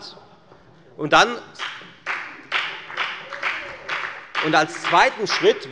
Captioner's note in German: Beifall bei der FDP